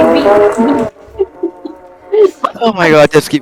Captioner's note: laughing